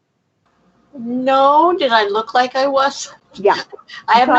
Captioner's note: laughs